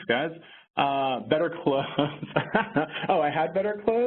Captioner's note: laughs